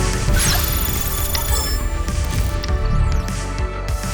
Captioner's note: digital whirring